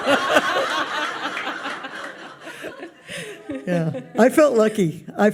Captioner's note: audience laughs